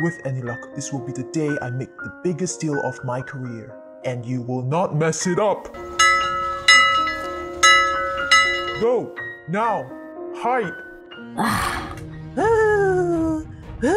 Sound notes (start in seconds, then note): 5.8 door bell ringing